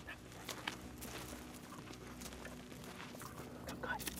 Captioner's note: footsteps thudding